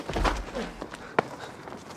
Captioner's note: smack